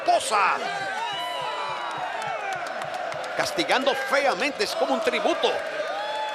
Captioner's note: applause